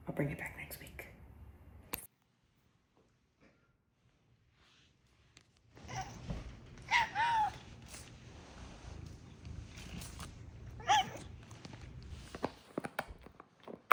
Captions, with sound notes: I'll bring it back next week. [Squeaky meow] [Screaming meow] [cat purring] [squeak]